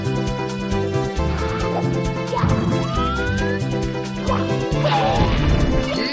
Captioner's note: groaning noises